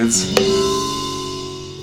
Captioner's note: clank